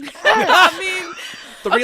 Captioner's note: laughing